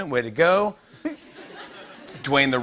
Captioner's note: laughter